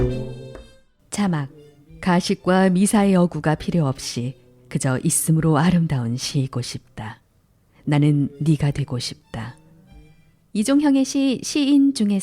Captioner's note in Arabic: يغني نغمات "الأشياء الجميلة" بينما يضرب الطاولة بالإيقاع